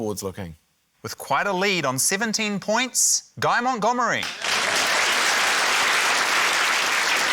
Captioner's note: applause